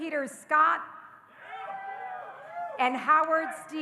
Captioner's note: audience cheering